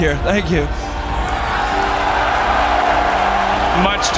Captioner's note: crowd cheering